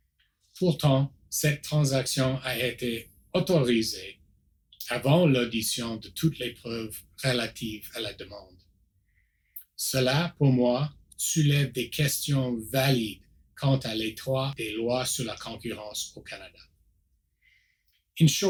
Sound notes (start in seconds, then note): 0.2 repeats in French